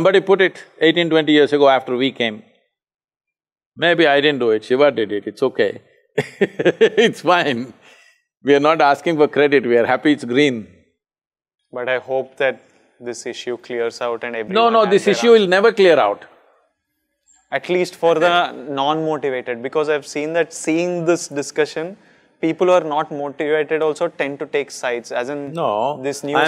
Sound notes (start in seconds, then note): 6.2 laughs